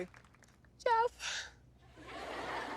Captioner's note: tearfully; audience laughs